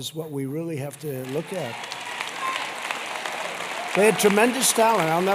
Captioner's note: applause